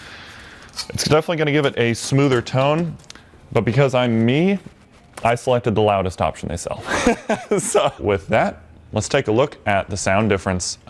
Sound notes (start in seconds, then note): 6.8 laughs